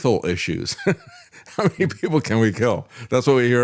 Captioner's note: laughs